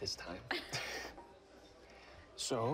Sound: both laugh

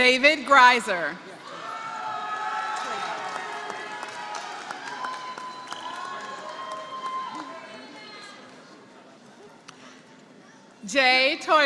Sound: applause

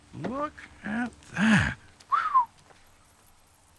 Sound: whistles

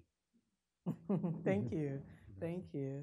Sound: laughing

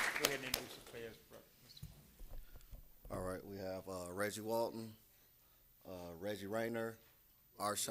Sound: applause

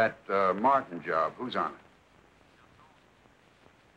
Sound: on phone

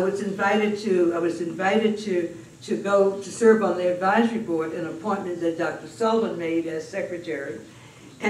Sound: none

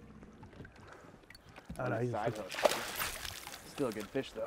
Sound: fish splashing

